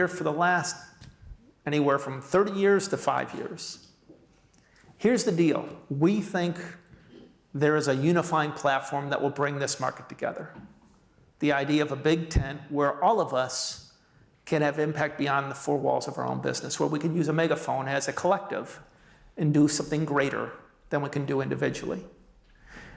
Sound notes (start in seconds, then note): none